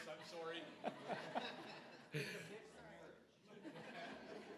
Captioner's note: everybody laughing